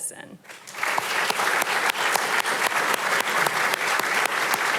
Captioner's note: audience applauding